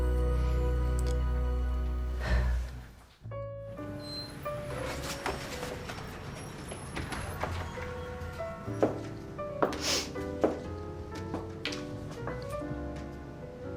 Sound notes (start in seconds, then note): 2.1 sighs; 4.6 jazzy music